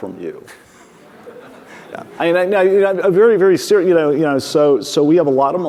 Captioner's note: audience laughing